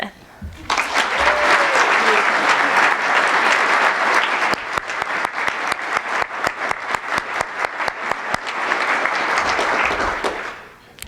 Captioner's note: applause